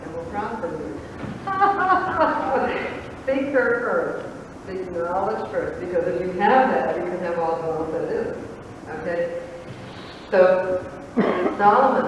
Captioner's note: laughter